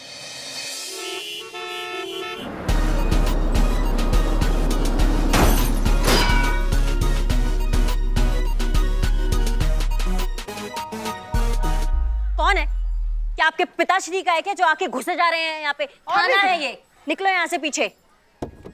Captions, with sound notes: [traffic noises] [upbeat music] [clanging] Who is it? What are you doing? This is a police station. Get back.